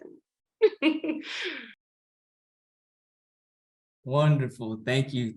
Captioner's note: laughs